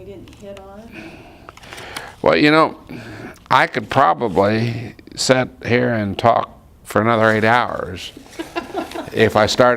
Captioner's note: laughter